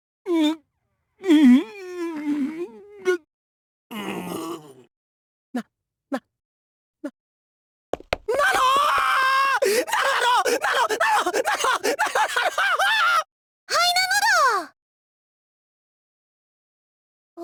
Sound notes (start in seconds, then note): 1.5 pained groans; 4.4 pained groan; 12.3 sputtering